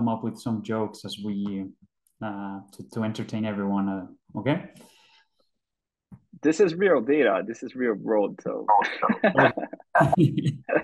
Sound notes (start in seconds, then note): 8.8 laughing